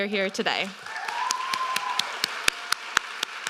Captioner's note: applause